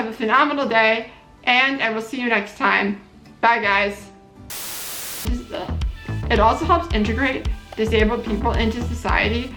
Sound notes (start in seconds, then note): 4.5 static noise